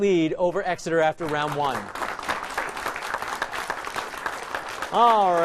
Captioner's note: applause